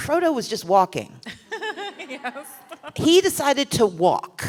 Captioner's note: laughter